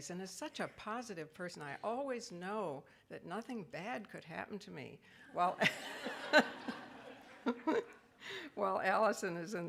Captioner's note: laughs